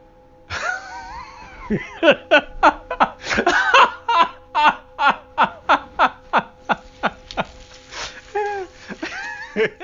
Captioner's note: laughs